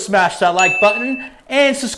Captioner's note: bell ringing